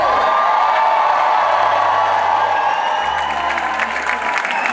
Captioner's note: audience cheering